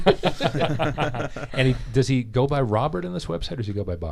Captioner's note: laughing